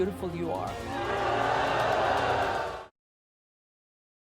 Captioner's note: crowd boos